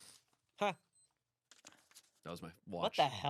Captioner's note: watch beeps